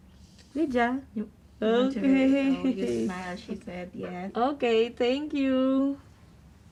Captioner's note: laughs